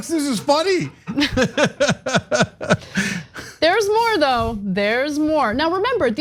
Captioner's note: laugh